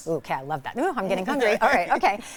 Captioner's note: laughing